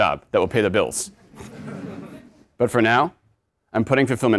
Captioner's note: laugh